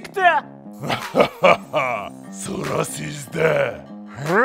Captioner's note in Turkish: Gülme sesi